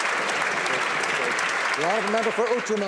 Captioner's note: some applause